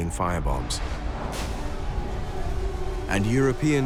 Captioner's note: explosions